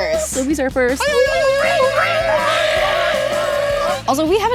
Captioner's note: animals screaming